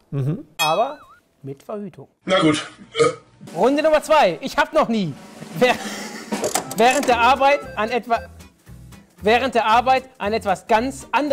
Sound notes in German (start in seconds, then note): 2.3 Rülpser